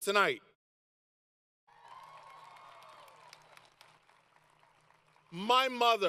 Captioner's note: applause